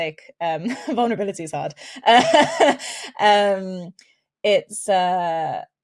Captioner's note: chuckles